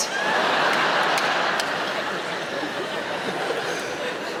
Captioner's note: audience laughing